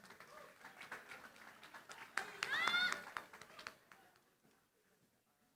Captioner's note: applause